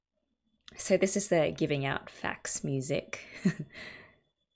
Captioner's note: laughs